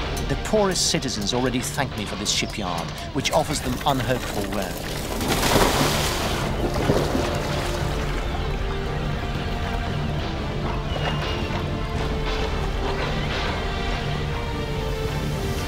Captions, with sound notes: The poorest citizens already thank me for this shipyard, which offers them unhurtful work. (ship splashing) (impressive orchestral music)